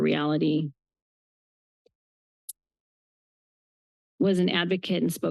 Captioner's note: pause